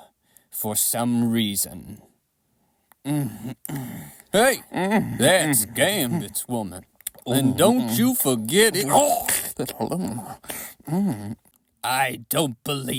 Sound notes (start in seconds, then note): 2.0 kissing noises